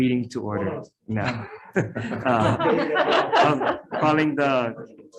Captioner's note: group laughs; laughs